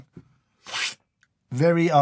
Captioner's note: slurp